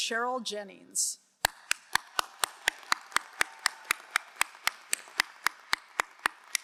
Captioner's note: crowd cheering and applauding